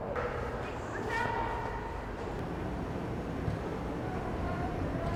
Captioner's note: indistinct chatter